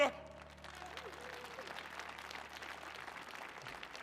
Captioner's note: audience cheering